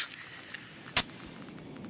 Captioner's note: radio static